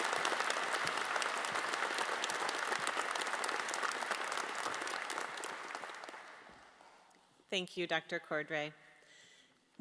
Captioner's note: applause